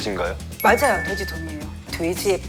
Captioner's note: ding dong ding